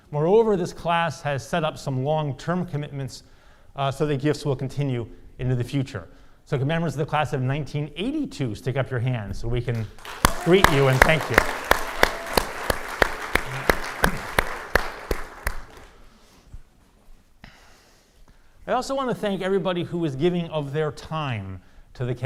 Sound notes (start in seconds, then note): 12.6 audience applauding